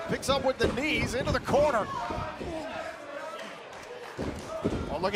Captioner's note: crowd cheering